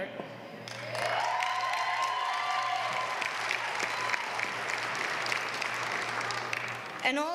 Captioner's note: applause